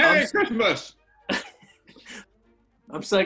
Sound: chuckling

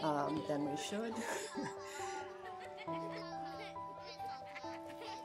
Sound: children laughing

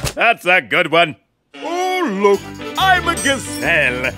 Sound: mocking

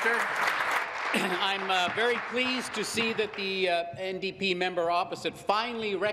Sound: applause

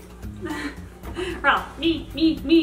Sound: laughing

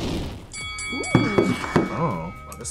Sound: bell dings

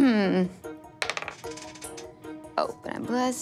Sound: dice clatters

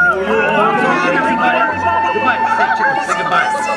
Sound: The Muppets, Audience cheers; patriotic themed music

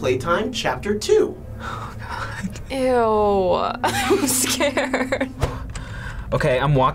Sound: whispers; laughs

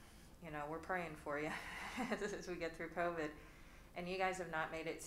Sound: laughs

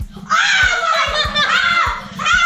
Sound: screams

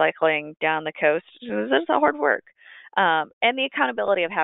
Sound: slurs words

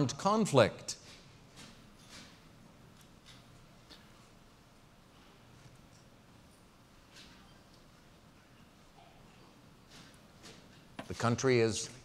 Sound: pause

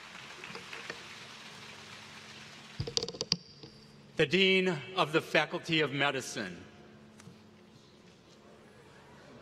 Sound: applause

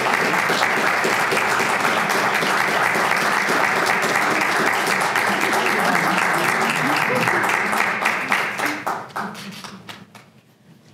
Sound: applause

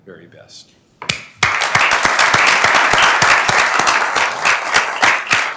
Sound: members applauding

